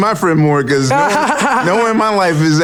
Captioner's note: laughs